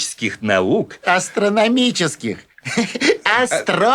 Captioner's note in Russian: смеётся